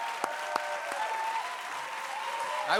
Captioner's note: cheers and applause